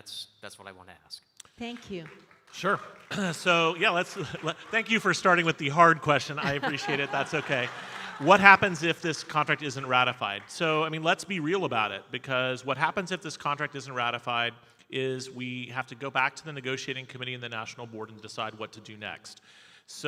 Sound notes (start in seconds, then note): 7.6 audience laughing